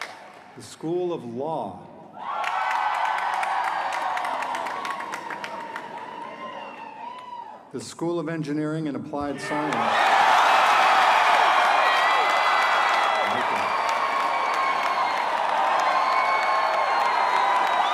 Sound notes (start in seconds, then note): 4.2 cheers and applause; 10.9 cheers and applause